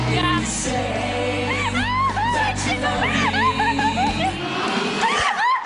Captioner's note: laughing